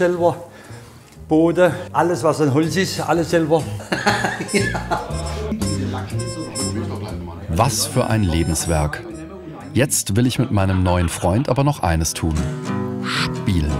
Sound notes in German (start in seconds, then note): 3.7 lachend